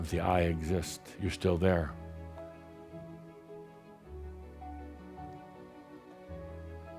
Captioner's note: none